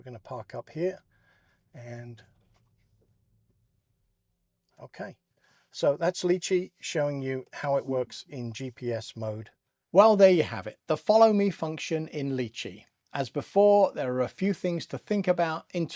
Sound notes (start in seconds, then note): 2.3 silence